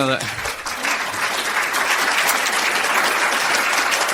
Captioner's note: applause